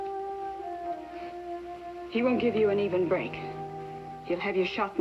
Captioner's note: sighs